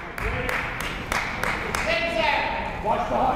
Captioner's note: clapping